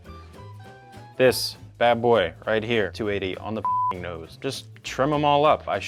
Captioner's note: beep